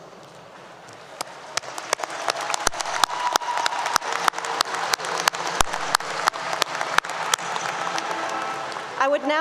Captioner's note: applause 👏 👏